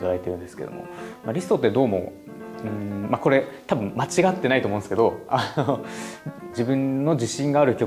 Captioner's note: laughs